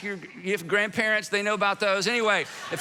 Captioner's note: congregation laughing